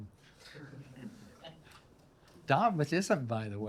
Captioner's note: attendees chuckle